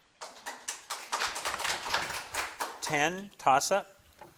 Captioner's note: crowd claps